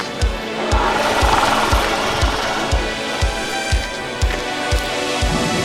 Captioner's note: dinosaur chatter